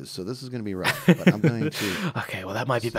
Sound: laughs

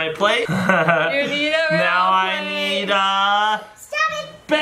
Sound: laughs

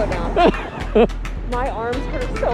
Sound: laughing

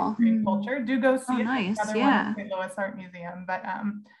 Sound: overlapping chatter

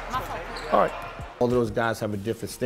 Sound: overlapping chattering

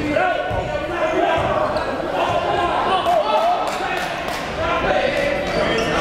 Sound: players and coaches chattering

